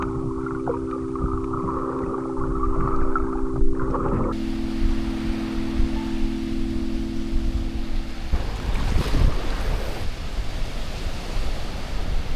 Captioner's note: wind blowing